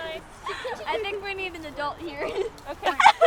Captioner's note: laughs